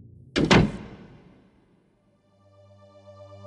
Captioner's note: door shuts